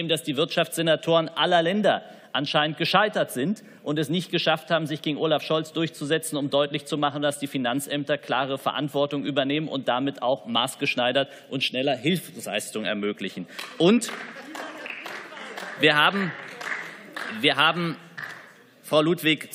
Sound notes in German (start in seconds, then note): 13.5 Beifall